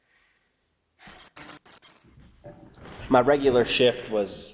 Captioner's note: static crackling